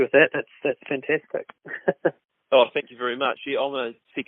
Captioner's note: chuckles